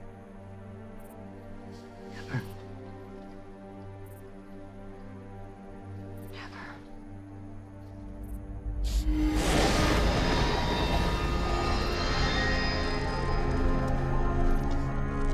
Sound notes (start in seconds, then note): 8.6 atmosphere whooshing; 12.3 dramatic music